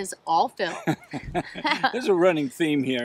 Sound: laughing

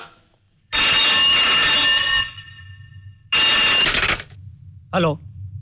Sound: phone ringing

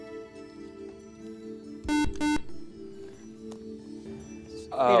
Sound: buzzer

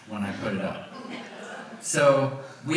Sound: audience laughs

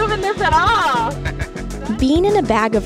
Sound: laughs

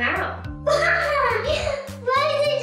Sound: laughing

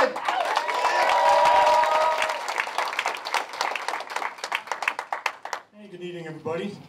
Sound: applause

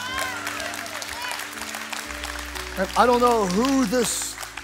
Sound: congregation cheering and applauding

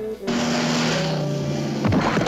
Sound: thuds

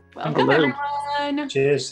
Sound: clamoring greetings

